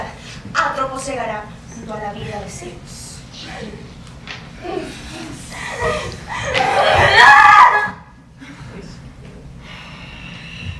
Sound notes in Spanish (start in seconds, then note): 6.4 Gritos